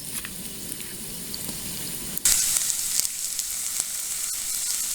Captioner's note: frying sounds